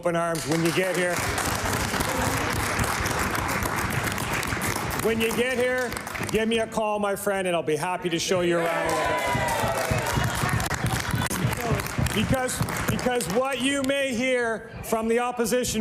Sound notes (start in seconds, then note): 7.0 applause